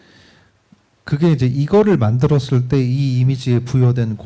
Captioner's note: speaking korean